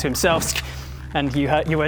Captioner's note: sssk!